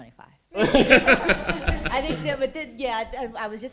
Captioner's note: laughter